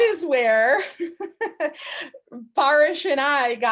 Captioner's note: laughing